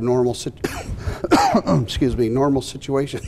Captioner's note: coughs